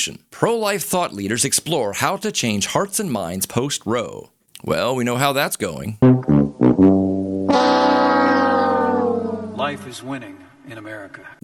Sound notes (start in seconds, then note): 7.4 Price is Right failure audio